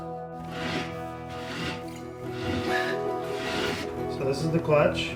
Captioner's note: metal scraping